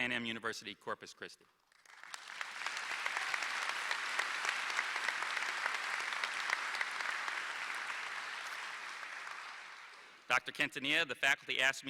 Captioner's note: applause